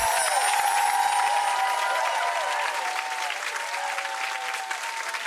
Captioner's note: audience cheering